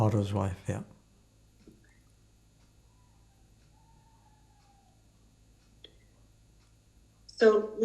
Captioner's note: pauses 6 seconds